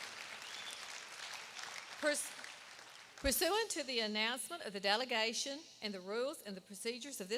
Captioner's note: applause